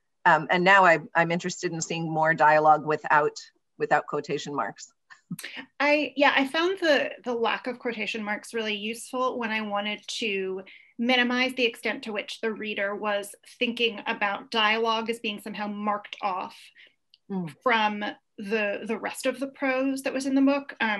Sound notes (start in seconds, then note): 5.2 laughs